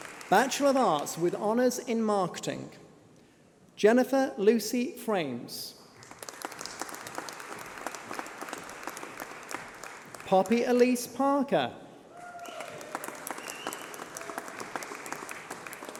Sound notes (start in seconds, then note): 5.5 applause